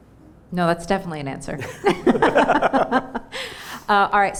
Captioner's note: laughs